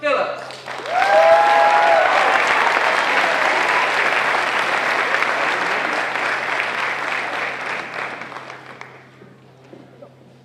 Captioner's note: applause